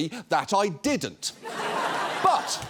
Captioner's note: audience laughs